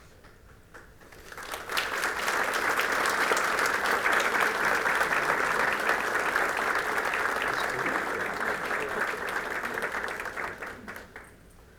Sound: applause

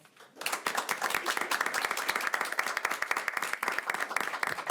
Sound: audience applauding

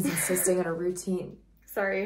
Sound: giggle

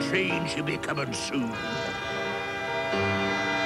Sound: train whistle

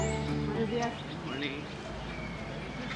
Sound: in Spanish

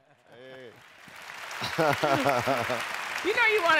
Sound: applause

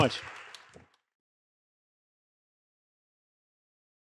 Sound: all clapping

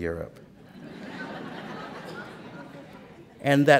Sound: laughter

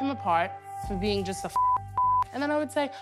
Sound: beep

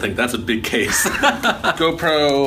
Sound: laughing

